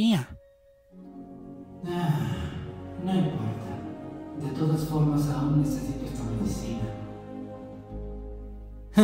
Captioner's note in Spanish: Suspiro